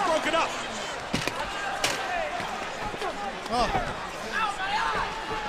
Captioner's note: crowd chatter